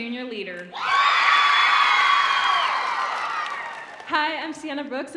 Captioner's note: audience cheering